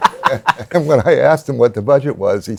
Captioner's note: laughter